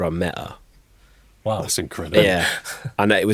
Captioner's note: chuckles